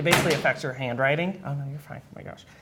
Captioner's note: crashing